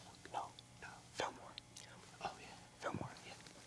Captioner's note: whispering